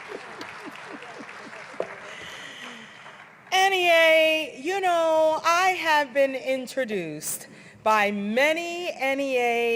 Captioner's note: applause